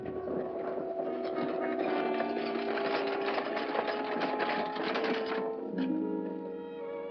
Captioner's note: carriage rattling & hooves trotting; romantic music